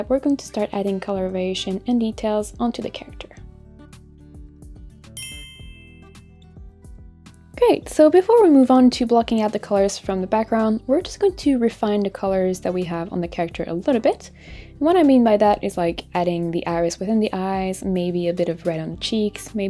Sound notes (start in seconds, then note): 4.1 gentle upbeat music; 5.2 clinks